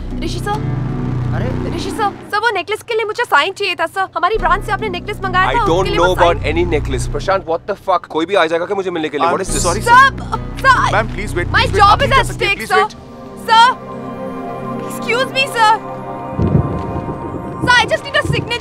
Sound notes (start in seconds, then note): 16.3 Clouds thundering